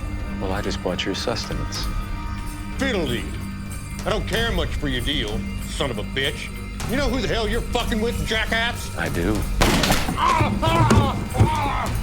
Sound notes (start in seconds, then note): 9.6 gunshot; 10.2 Zebediah groaning in pain